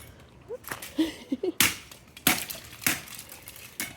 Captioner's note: chopping sound